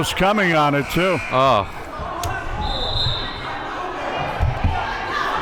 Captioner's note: whistle blows